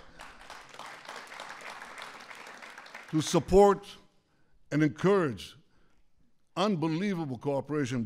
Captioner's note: applause